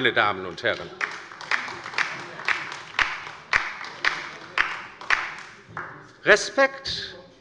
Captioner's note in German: Beifall bei der LINKEN